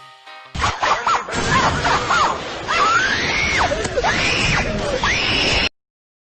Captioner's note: crazy kids scream